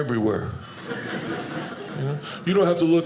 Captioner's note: audience laughing